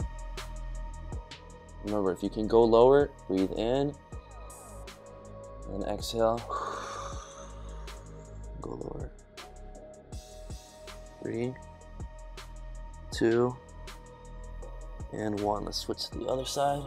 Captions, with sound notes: Remember, if you can go lower, breathe in and exhale. (exhaling loudly) Go lower. Three. Two. And one. Let's switch to the other side,